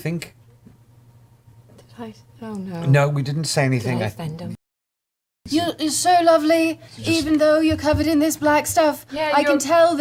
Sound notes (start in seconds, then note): none